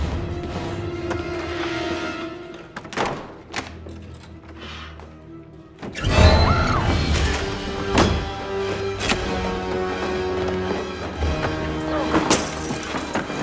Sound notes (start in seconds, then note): 2.7 thudding, clicking; 6.0 screaming